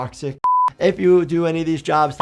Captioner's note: screen beeps